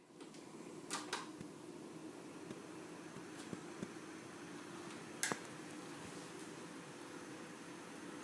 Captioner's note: ffan yn chwythu